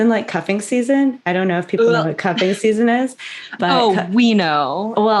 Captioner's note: barf noise